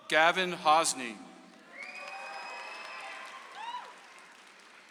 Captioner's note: audience applauds